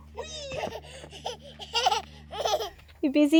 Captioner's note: laughs